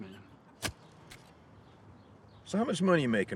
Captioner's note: shovel thuds